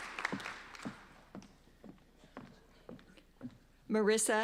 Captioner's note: applauding